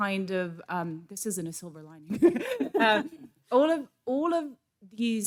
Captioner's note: laughs